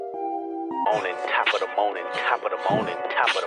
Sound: guy cries in background

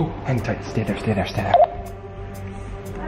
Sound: beep

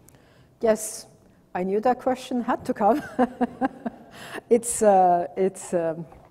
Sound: laughs

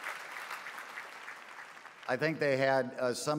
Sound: applause

